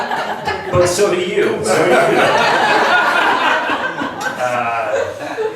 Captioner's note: laughs; laughs